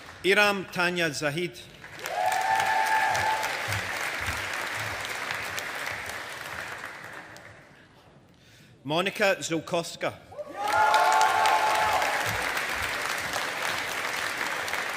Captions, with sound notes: Iram Tanya Zaheed. (AUDIENCE APPLAUDING) Monika Ziolkowska. (AUDIENCE APPLAUDING)